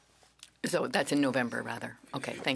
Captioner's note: speaking French